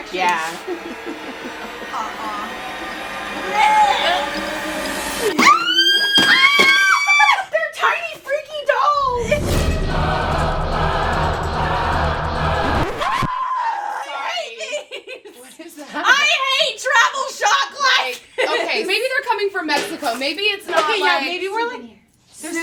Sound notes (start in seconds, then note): 0.0 horror music; 5.2 screams; 9.0 screams; 9.0 dramatic opera music